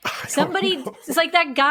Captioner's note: laughs